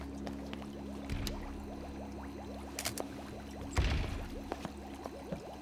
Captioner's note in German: Tür öffnet und schließt sich